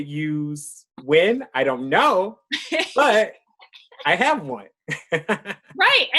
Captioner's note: chuckles